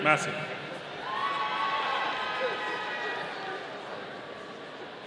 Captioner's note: audience cheering